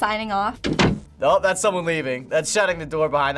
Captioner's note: door closing